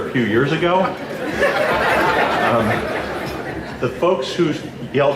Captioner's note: laughing